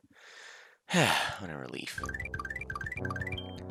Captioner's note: sigh